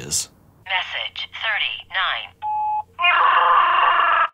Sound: on phone; Chewbacca groaning

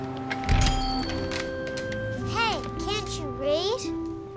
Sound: bell rings

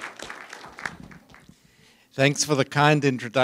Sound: applause

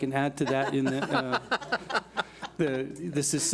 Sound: board laughs

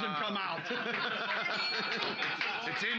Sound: loudly laughing; bell softly chimes

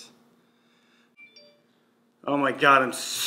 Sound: breathes; phone notifications toning

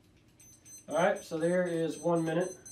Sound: timer beeping

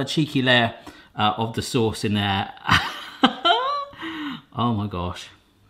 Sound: laughs

